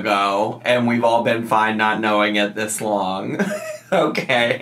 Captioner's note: laughs